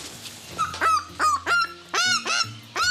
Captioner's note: eagle squawking